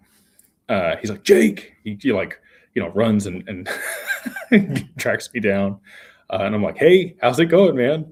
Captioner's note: laughter